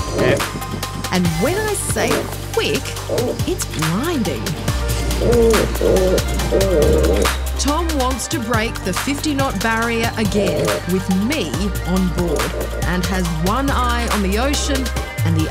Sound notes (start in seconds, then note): 5.5 boat creaks